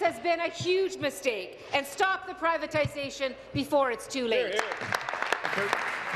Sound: applause

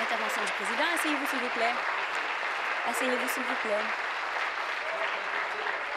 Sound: applause

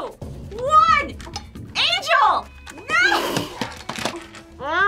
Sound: laughs

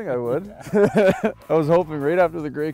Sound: laughter

